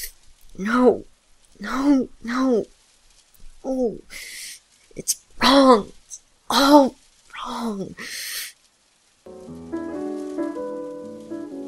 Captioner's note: defeated sigh